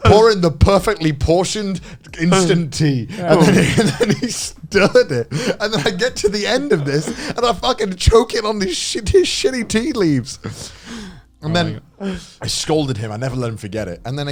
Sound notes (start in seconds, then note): 3.0 laughs